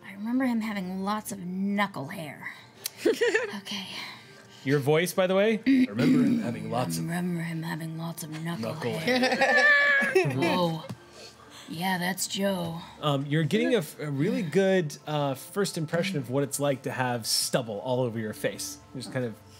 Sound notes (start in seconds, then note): 9.0 laughing